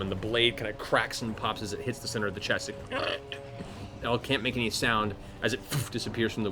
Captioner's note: gurgle